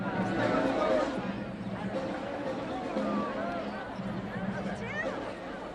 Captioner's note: crowd